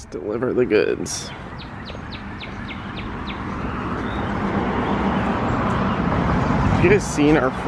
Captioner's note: birds chirping